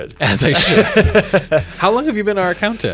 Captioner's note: both laugh